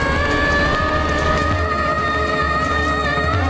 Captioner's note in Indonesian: berteriak